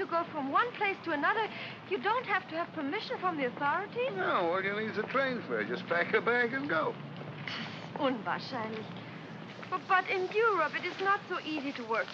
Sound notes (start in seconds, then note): 7.9 speaks in German